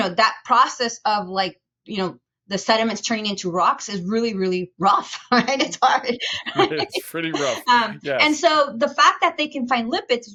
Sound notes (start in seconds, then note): 6.3 chuckles